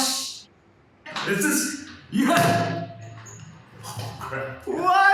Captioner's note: slams table